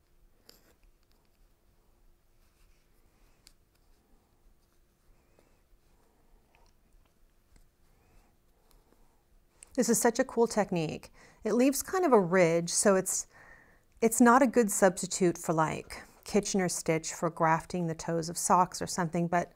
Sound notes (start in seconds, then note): 4.4 silence